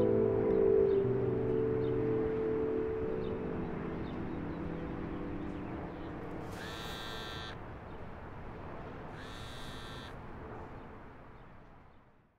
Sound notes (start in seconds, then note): 6.6 buzzing